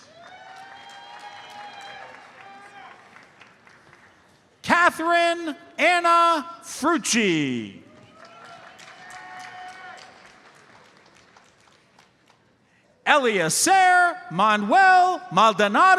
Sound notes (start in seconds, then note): 0.0 audience applauds; 7.9 audience applauds